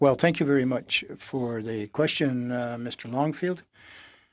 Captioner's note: speaking in French